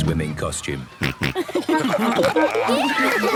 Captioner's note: snorting, giggling